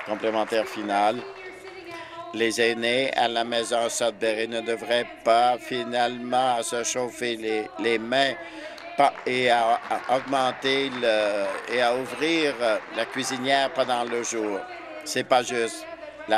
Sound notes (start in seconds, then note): 0.0 applause; 12.7 applause